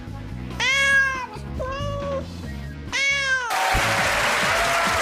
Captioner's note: meows; cheering and applause